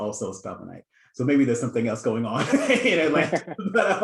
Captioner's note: laughs